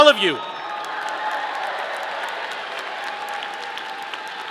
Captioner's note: audience cheering